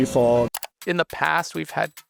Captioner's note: mouse clicking